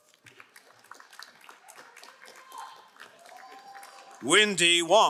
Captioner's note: crowd cheering and applauding